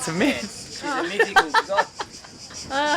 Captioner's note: laughter